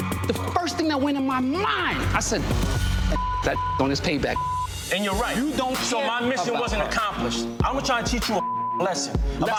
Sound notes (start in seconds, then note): 4.2 beep; 8.4 beep